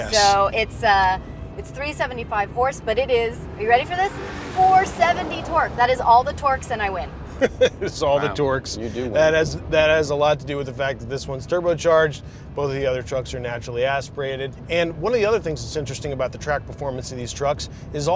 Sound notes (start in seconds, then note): 7.3 laughing